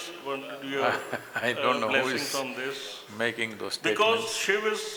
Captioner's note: laughs